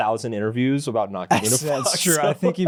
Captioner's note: laughs